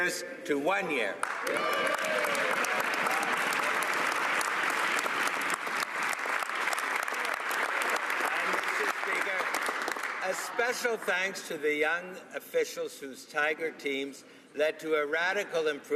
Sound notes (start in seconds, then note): 9.2 some Applause